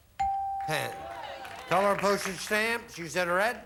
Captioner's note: audience applauding